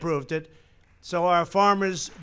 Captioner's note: applause